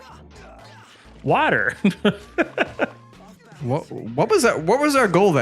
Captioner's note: laughs